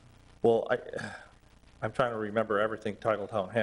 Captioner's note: sigh